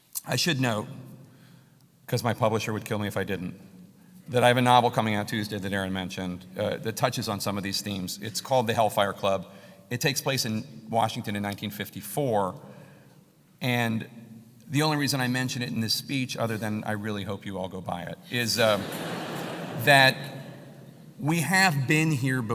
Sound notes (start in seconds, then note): 18.4 laugh